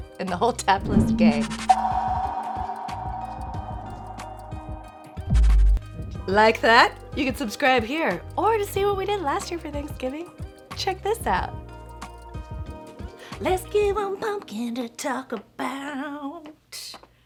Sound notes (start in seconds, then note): 1.0 logo echoes